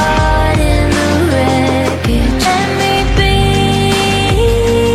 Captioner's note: knock knock knock